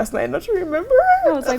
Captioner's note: laughs